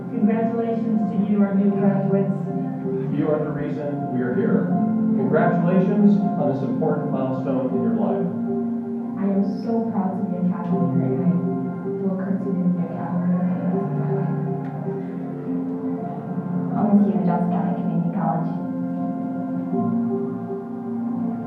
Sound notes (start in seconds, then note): 11.1 speaking faintly; 14.6 speaking faintly; 18.7 gentle music